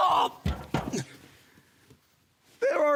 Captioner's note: heavy breathing